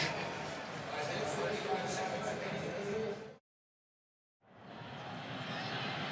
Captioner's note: pa announcement